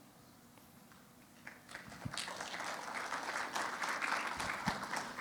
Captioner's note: applause